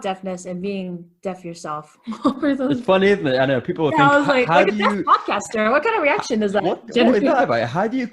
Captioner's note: laughter